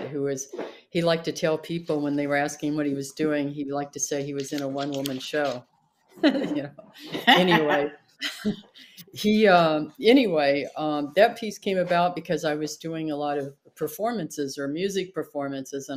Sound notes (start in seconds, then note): 6.9 laughs